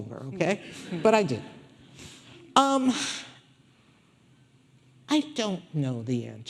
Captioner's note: audience laughing